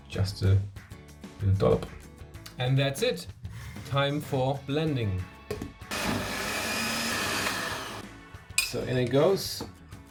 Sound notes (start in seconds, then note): 5.8 blender humming